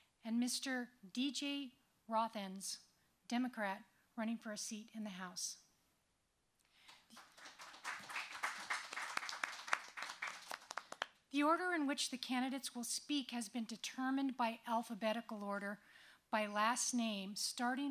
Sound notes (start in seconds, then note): 6.8 applause